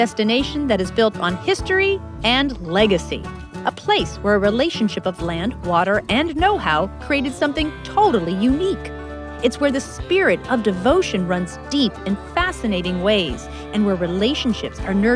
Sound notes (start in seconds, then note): none